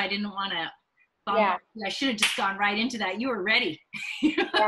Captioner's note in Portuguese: risos